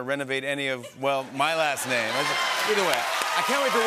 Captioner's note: laughter, cheering, and applause